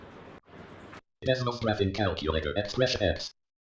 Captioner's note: screen reading software narration